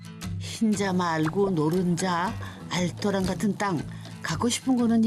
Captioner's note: sizzling